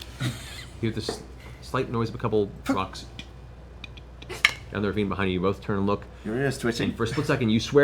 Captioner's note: clattering